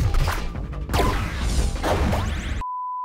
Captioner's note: system beeps